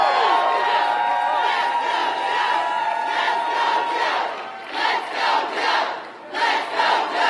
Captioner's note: applause